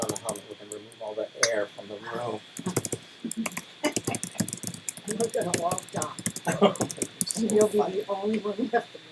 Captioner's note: typing